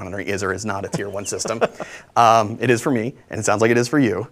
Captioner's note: laughs